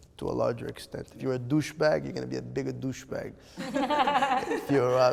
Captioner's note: laughter